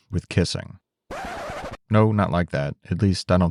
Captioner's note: record scratching